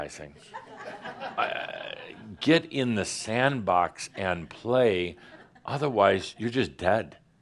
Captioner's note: some giggles